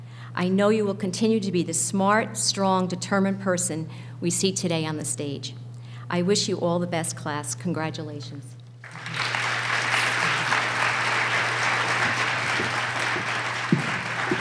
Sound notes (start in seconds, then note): 8.8 applause